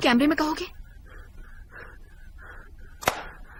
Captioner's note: panting